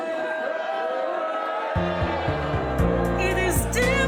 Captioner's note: audible boos